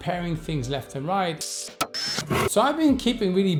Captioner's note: whirring and pounding